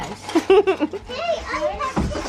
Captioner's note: laughs